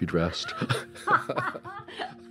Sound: laugh

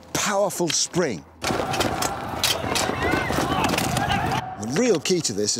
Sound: weapons clanking; soldiers yelling

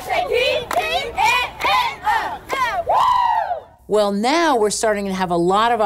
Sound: cheering

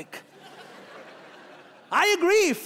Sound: laughing

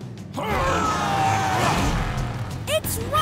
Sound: grunting

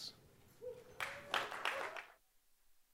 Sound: applause

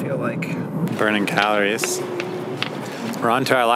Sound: humming

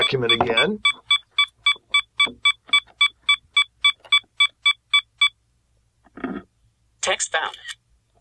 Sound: beeping

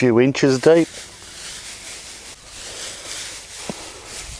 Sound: mulch rustles

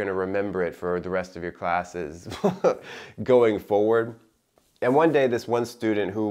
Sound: chuckling

